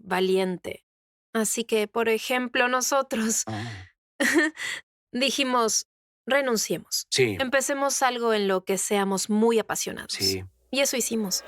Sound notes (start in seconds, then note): 3.4 laughs